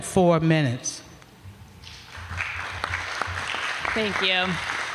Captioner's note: applause